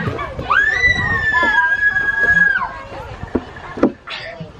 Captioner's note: kids scream